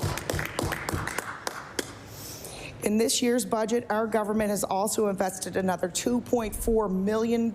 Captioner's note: applause